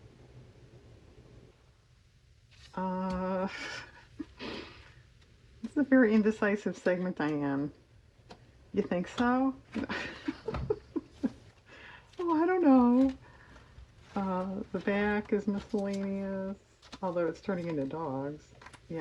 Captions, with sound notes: this is a very indecisive segment, Diane you think so? (laughs) oh I don't know the back is miscellaneous although it's turning into dogs